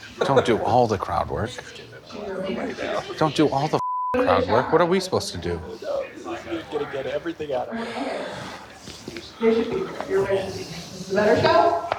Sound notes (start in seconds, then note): 3.8 beep